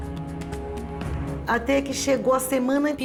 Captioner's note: speaking Portuguese